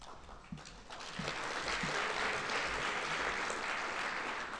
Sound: audience applauding

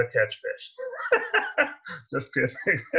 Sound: laughs

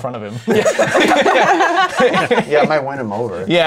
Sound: laughter

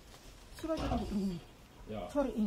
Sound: animal squealing; woman in scarf speaking native language

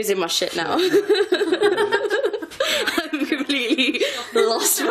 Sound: laughing

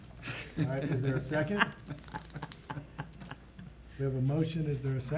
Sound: laughing

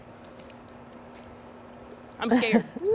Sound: laughter

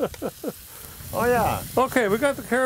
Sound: chuckles

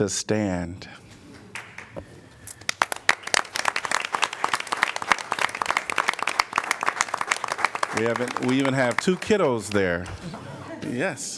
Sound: applause

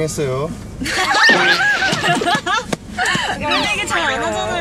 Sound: hahahaha

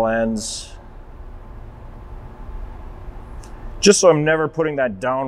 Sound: background loading sound

